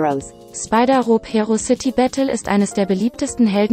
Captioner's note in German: Eine weibliche Computerstimme liest vor